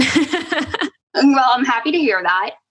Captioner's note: laughs